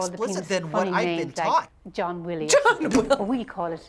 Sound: laughs

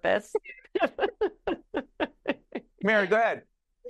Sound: laughing

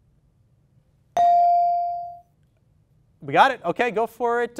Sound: ding

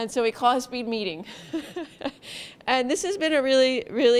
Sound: laughs

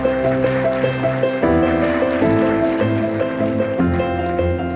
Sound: audience applauding

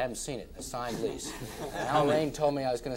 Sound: all laughing

